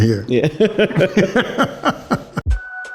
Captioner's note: both chuckling; lively music